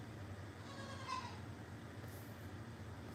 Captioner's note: goat bleats